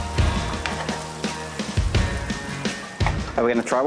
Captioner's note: meat sizzles